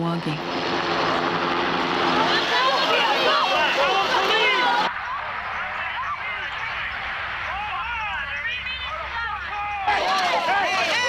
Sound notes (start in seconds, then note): 1.0 protesters yelling; 2.0 protesters yelling from T.V; 8.5 mixed voices yelling